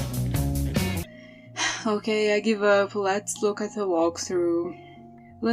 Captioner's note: sigh